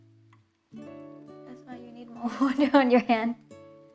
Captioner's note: giggles